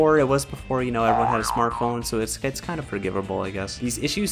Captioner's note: boing